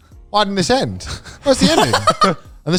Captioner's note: laughs